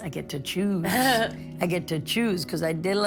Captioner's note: laughing